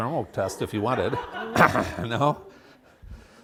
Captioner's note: laughter